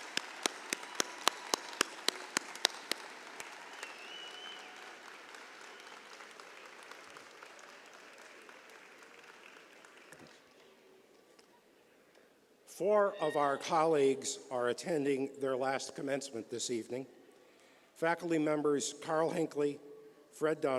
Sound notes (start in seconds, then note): 7.2 cheers and applause